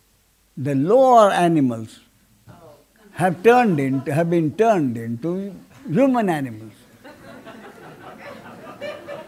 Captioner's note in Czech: smích